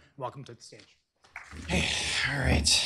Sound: applause

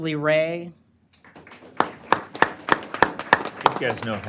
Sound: applause

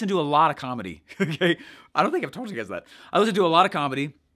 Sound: giggles

